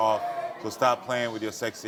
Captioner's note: audience groaning